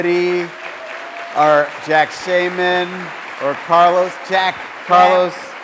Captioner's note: applause